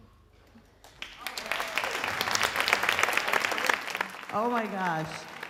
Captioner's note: audience applauding